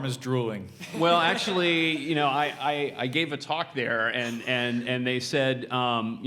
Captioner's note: laugh